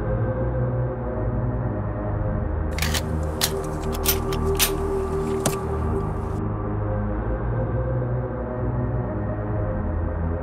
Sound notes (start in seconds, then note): 0.3 dark atmospheric music; 2.7 guns cock